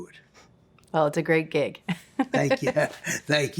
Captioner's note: laughs